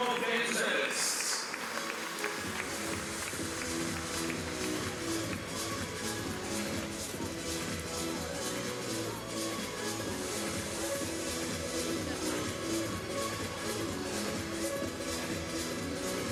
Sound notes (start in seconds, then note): 5.7 applause